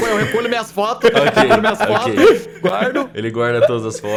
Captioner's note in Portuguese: risos